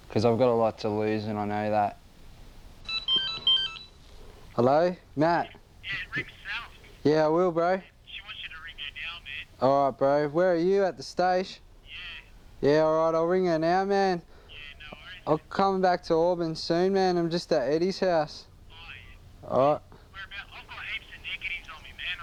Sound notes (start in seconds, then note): 2.8 phone rings